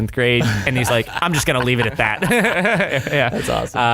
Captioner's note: laughter